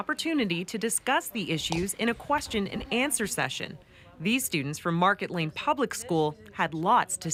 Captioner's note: laughter